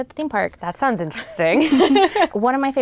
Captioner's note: laughs